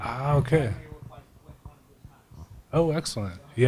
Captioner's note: speaking off microphone